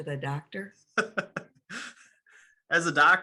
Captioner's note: laughs